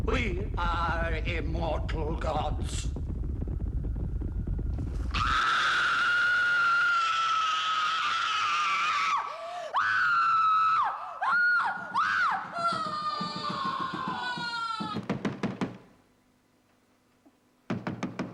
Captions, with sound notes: We are immortal gods! (BLOOD-CURDLING SCREAMING) (BANGING) (SCREAMING STOPS)